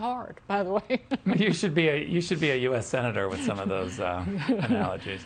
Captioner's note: laughter